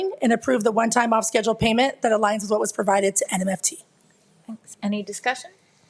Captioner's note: none